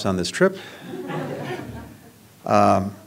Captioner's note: laughter